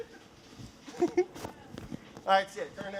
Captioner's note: laughing